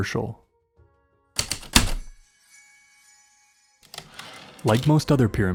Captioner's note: typewriter keystrokes then return slide